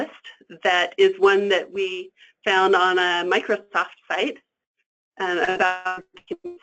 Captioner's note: static